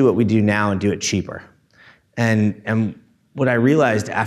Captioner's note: none